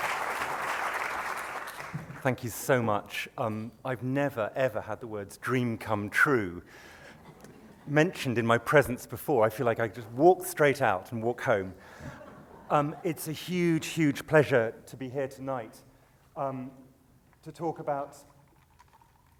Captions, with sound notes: - [Voiceover] Thank you so much. I've never, ever had the words "dream come true" mentioned in my presence before. I feel like I just walked straight out and walk home. (laughter) It's a huge, huge pleasure to be here tonight to talk about,